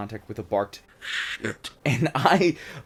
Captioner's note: deep voice